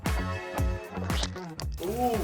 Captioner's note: squirt